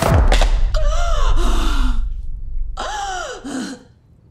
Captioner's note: gasps for air